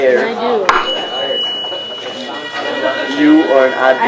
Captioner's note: rings tuning fork, buzzes on paper